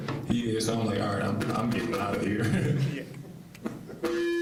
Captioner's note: laughing